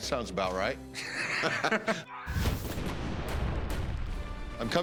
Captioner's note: laughter